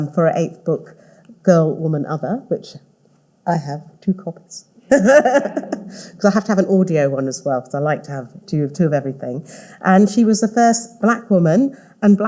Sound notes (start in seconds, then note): 4.9 all laughing